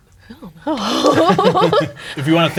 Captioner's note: laughing